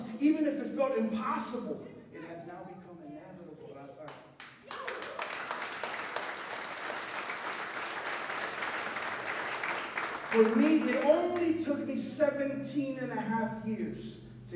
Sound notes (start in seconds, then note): 2.5 non-english speech; 4.3 applause